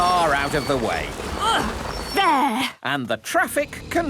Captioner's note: grunts